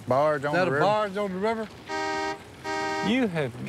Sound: honking

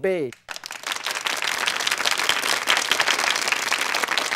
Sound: applauding

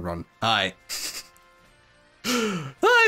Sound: chuckles

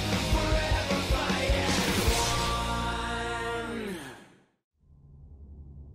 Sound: none

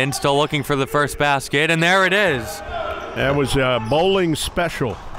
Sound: cheering

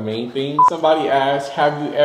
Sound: beep

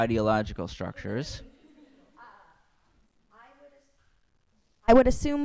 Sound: laughing

